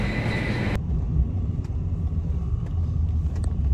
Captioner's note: taxi drives steadily, bumps occasionally